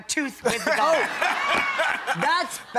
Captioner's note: laughs loudly